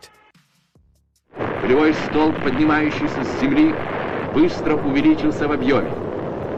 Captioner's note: man speaking in foreign language